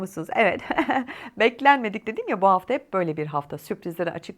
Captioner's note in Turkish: kahkaha